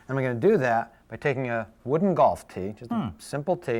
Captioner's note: hums in interest